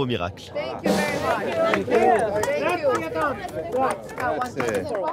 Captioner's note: speaking in English